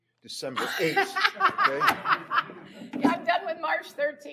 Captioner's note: laughs